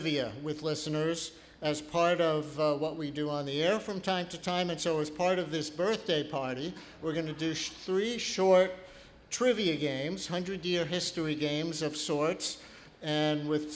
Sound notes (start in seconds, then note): none